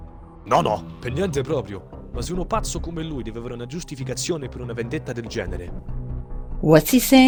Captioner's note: renzo speaks italian